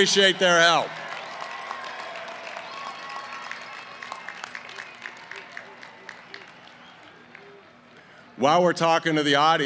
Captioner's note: cheering & applause